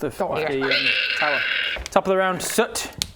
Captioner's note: mortal lizard protestations